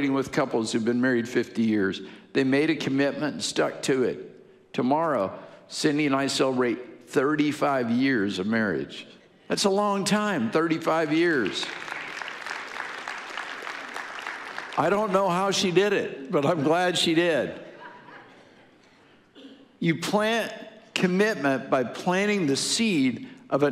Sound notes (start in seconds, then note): 11.2 audience applauding; 18.0 audience laughing